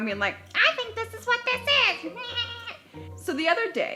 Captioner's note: mumbles mockingly